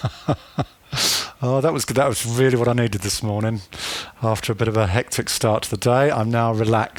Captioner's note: laughs